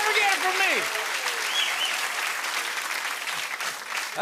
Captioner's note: cheers and applause